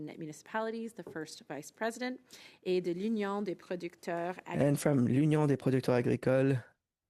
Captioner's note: speaking French